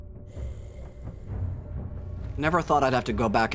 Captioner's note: tense music; monster softly growling